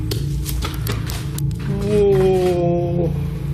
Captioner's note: footsteps approaching